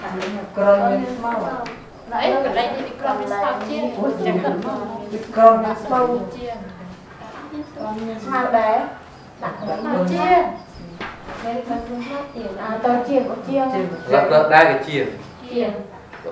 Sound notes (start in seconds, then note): 4.2 chattering